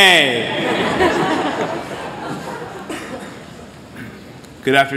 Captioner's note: laughter